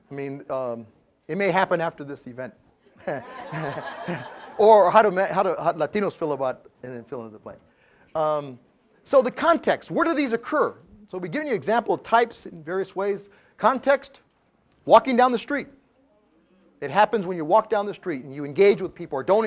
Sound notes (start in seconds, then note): 2.9 laugh